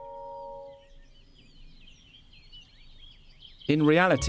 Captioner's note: birds chirping